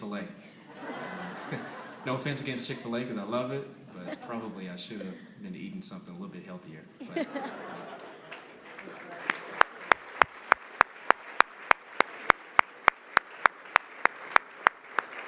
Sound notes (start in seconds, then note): 0.7 laughter; 7.0 laughter, applause